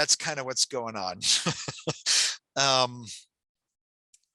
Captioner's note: laughs